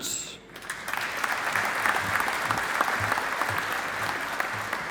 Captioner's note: audience applauding